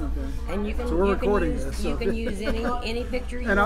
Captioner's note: laughs